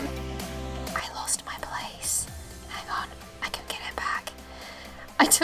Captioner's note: whispers